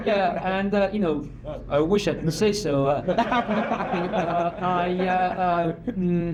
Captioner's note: laughs